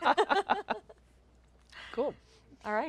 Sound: chuckling

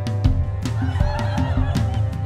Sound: laughter

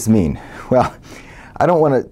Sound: laugh

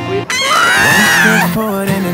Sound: yelling

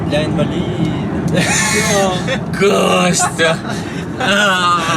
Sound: disappointedly sighs; laughing

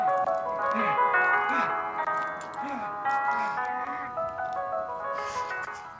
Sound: Jake grunting

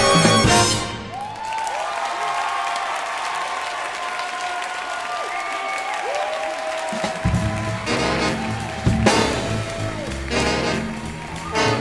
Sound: audience applause

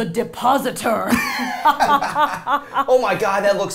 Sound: both laughing

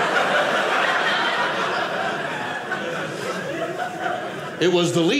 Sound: audience laughing

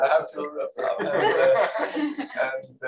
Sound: laughter

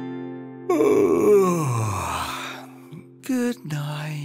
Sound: yawning

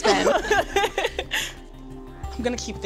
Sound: laughter

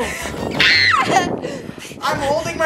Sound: screams

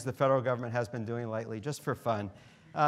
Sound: none

